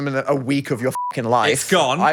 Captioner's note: beep